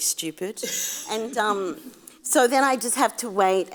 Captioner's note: audience laughs